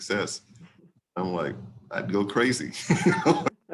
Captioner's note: laughs